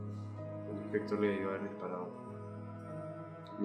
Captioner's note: quietly